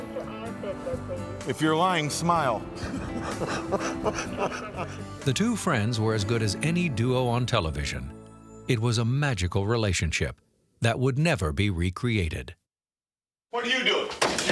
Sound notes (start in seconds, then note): 2.7 laugh